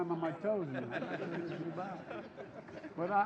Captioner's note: laughter